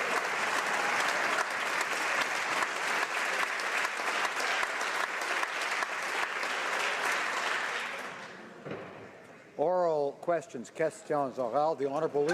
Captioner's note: applause